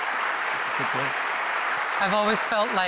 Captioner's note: applause